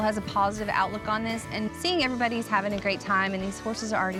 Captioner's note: none